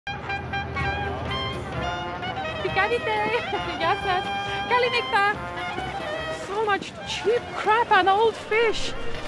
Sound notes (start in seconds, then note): 2.6 non-english speech